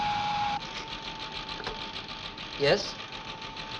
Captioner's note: machine whirring